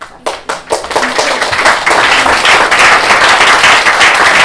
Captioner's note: applause